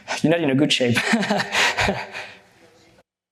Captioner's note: chuckles